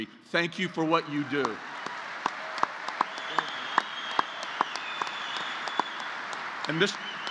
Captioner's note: applause